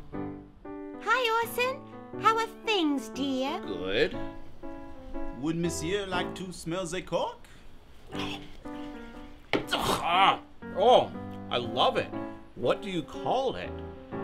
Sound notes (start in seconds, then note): 8.3 chewing; 9.7 gulp